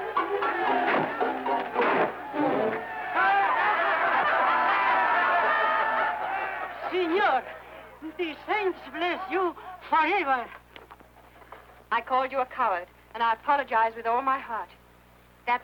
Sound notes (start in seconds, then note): 3.6 crowd laughing